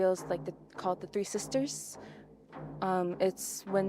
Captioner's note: speaking Indigenous LANGUAGE